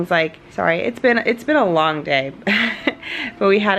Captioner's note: laughs